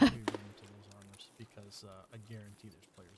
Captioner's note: laughing